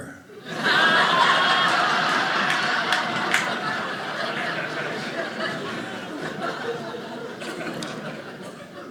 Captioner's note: audience laughing